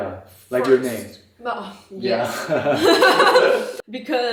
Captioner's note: laugh